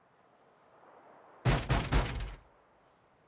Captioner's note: knocking